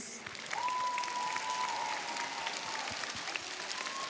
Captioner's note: cheers, applause